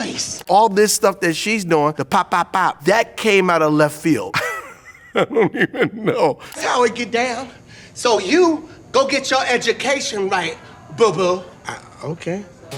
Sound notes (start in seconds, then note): 4.3 laughs